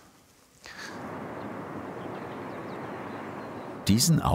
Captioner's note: quiet traffic noise, chirping